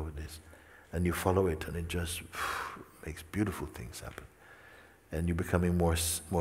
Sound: izdahne

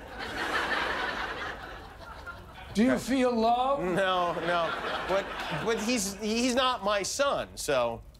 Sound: laughter

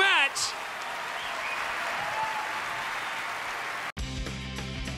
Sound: applause

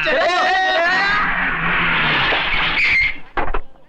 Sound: tire Screeching

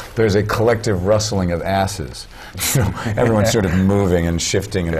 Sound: laugh

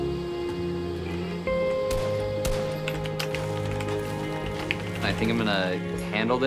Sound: keyboard clacking

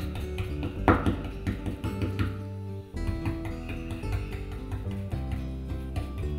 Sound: gentle guitar music; brush tapping

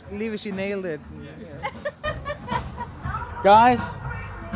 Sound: laughs

